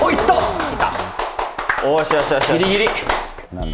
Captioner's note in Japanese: 拍手